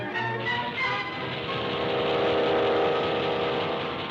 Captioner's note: engine rumbling